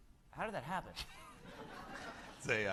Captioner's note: laughter